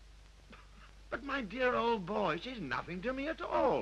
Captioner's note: chuckles